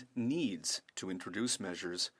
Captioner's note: speaking French